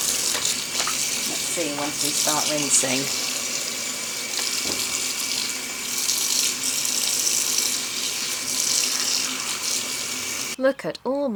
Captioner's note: tap running